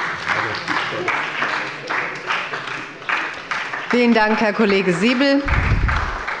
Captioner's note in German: Beifall bei der SPD